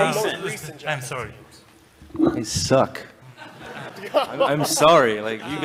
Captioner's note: crowd laughs